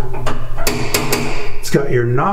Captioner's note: door knocker tapping